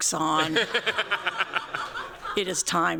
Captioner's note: laughter